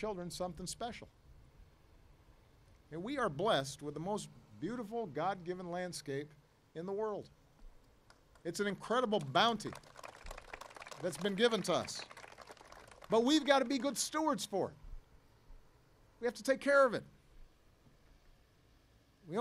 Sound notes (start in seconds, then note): 9.1 applause